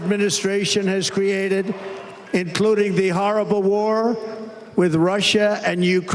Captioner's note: applause